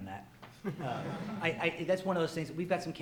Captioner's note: audience chuckles